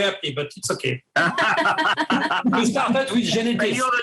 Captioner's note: all laughing